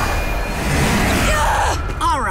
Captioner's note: groaning